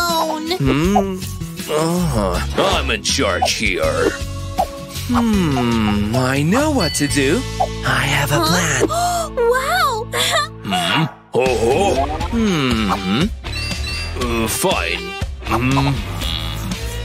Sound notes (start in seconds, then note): 0.7 making sounds with his tongue; 4.5 puffs